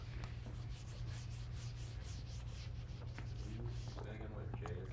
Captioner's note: eraser rubbing